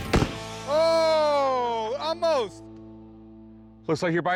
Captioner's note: laughs